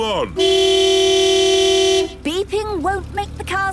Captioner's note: honking